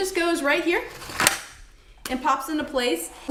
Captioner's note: battery snaps into place